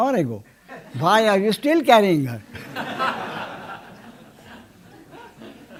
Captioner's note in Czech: smích